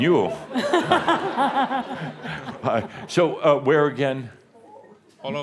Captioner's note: more chuckles